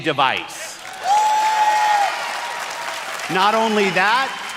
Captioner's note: audience cheers